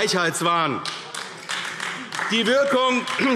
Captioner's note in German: Beifall AfD